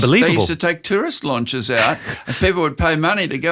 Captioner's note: laughs